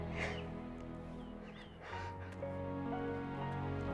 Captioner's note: sobbing